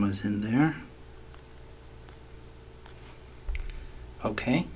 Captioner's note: writing Sounds